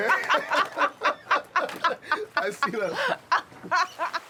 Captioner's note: both laugh